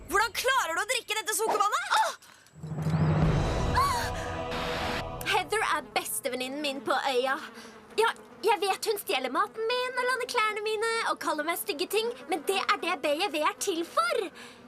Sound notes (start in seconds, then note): 1.5 gasps